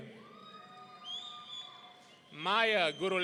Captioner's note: audience cheering